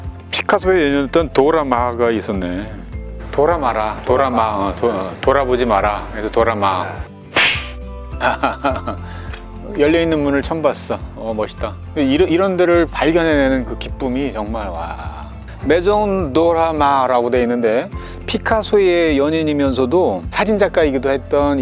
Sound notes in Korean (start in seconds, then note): 8.2 웃음